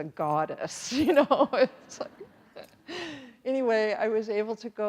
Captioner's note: chuckles; everyone chuckles